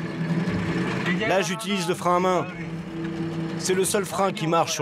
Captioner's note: herero audio spoken